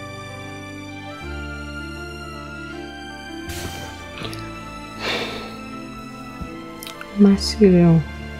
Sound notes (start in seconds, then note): 5.0 sigh